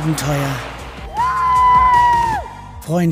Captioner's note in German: Jubel